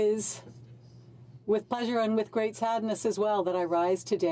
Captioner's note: speaking French